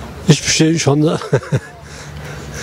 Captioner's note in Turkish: Gülme sesi